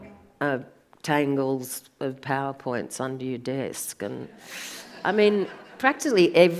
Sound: audience laughs

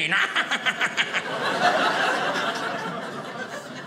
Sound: audience laughing

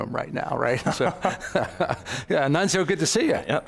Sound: all laughing

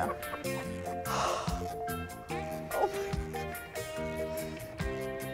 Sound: exhales

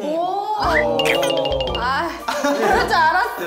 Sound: hee hee

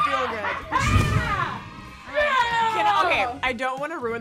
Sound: yells

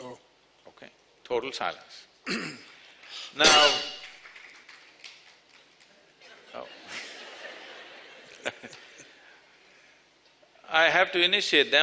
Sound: few applaud; laughter

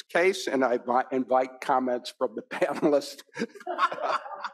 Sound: laughs; panelists and audience laughing

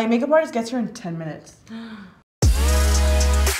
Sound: gasp; slow electronic music

